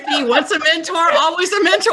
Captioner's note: laughs